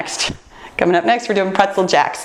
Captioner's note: none